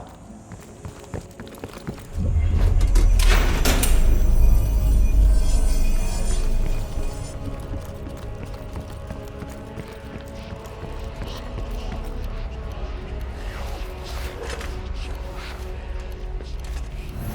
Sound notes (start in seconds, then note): 0.6 footsteps; 2.2 door slams